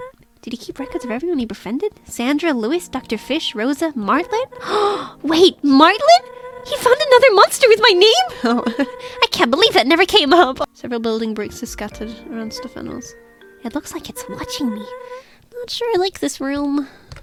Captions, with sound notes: "Did he keep record of everyone he brefriended?" "Dandra, Luis, Dr. Fish, Rosa, Martlet..." "(gasps) Wait, Martlet???" "He found another monster with my name?" Oh... (laughs) "I can't believe that never came up!" "Several building bricks are scattered around a stuffed animal." "...It looks like it's watching me." "Not sure I like this room."